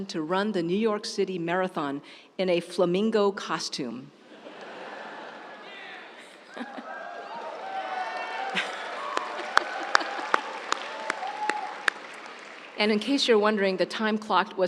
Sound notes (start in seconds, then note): 4.2 audience laughs; 4.6 audience cheers